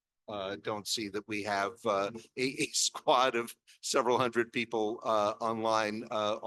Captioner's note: chuckles